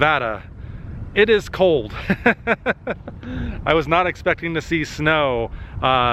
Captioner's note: laughter